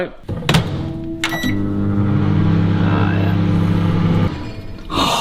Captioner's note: microwave beeps; gasps